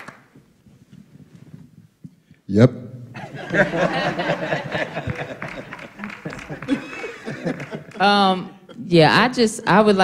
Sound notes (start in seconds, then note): 0.0 applause; 3.2 laughter